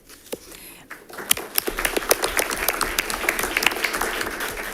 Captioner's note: audience applauding